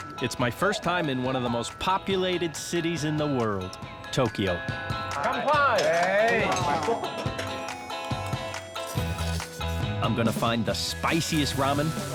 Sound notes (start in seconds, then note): 8.5 slurps